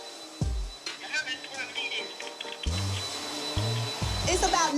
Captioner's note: vacuum; on phone